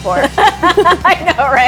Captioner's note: laughing